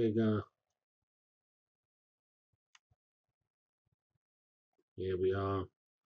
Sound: pause

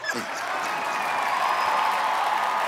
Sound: laughs; laughter

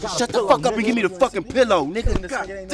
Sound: none

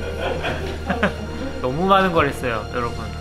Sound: laughing

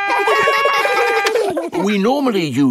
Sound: siren wailing; kids laugh; siren stops

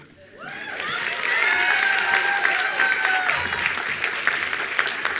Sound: attendees applauding

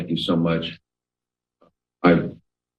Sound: pause

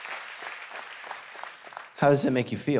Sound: audience applauding

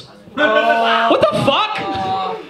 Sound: audience groans

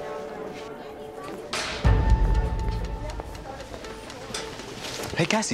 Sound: locker slamming

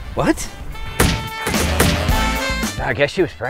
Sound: pounding

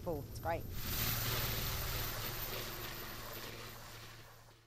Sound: helicopter

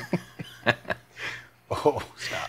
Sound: laughing

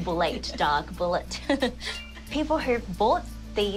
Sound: laughs

